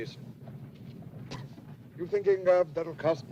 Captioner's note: spits